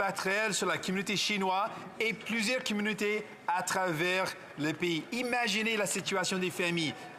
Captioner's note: speaking French